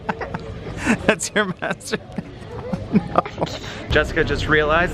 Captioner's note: laughter; laughs